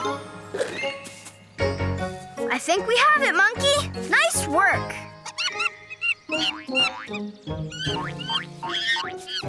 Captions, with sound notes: (light music) - I think we have it, Monkey. Nice work. (Monkey chirps)